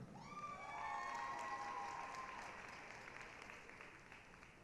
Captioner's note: applause, cheering